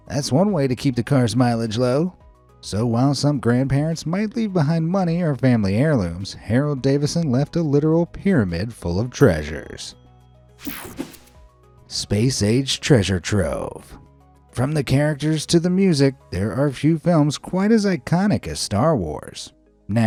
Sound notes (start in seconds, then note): 10.6 air whooshing; 10.6 soft upbeat music